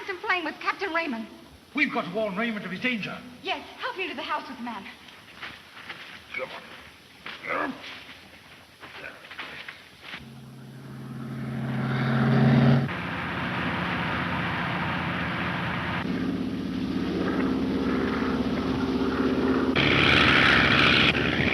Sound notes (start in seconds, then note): 6.6 men groaning; 10.9 engines roaring